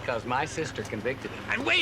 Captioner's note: winces